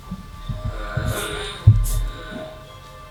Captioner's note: moaning